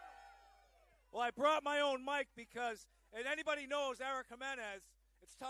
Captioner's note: applause